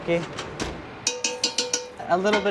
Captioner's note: spoon bangs against pot